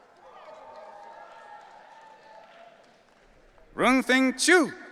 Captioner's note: audience cheering